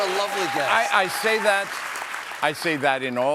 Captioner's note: applause